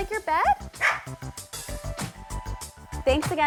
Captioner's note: Sprout barks